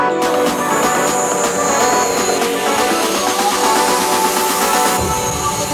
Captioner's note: drone motor whirs